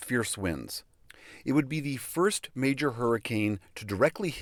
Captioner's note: through translator